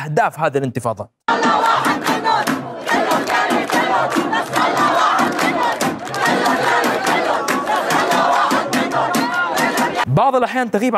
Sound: lebanese shouting: all means all, don't leave anyone behind

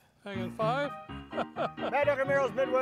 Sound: bouncy piano music; laughing

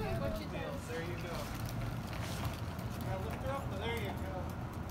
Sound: family chattering

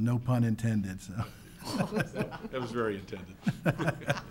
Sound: laughs

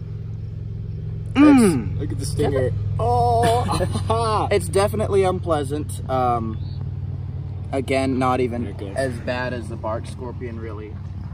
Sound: mm!

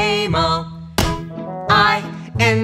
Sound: clap

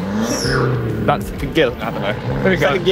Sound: car engine racing

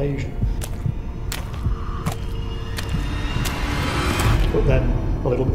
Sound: footsteps walking through water

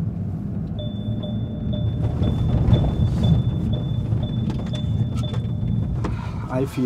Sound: sound of a car driving

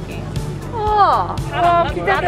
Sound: exclamation

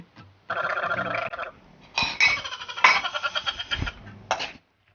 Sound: laughs

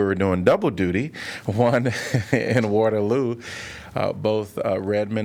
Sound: laughter

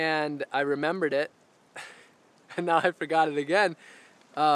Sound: laughs

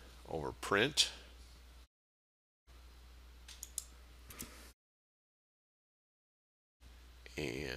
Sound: sound of mouse clicking

